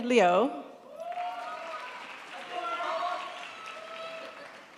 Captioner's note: crowd applauds